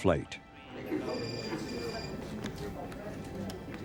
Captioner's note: murmurs; phone rings